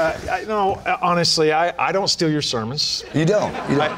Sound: laughter

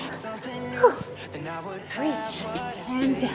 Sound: huffs air out

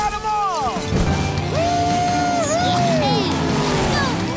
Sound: cheering

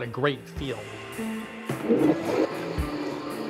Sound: blender starts

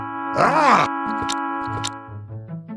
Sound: smacks Mouth

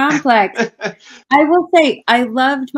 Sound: laughing

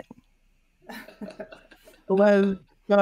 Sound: chuckles; laughs

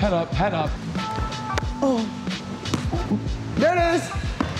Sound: grunts

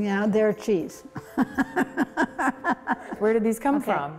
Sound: laughing

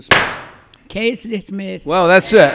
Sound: loudly bangs

